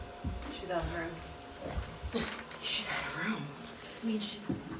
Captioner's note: laughs